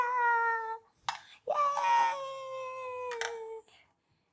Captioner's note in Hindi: चीखने की आवाज़